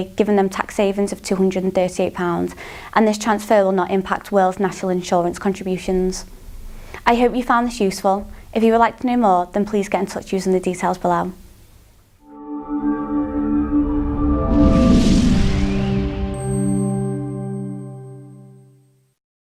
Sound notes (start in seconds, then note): 12.2 melodic sting; 12.3 bell dinging